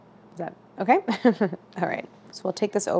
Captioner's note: laughs